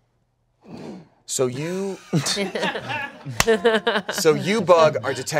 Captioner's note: everyone laughs